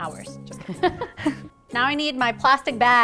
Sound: chuckling

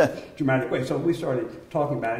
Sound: laughter

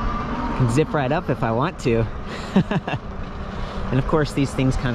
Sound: laughing

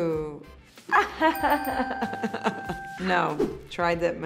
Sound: laughing

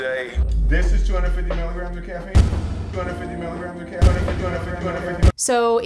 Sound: echoing

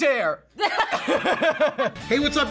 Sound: laughs

